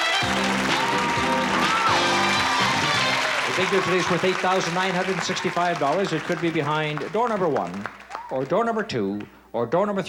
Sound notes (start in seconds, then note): 1.2 cheering and applause